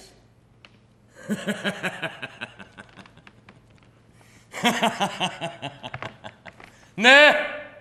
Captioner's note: γέλιο